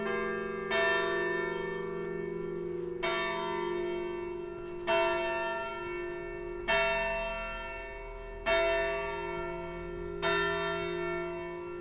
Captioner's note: church bells